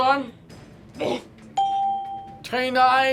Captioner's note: bell rings